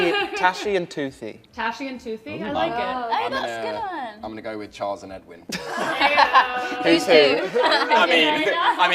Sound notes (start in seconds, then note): 5.5 laughter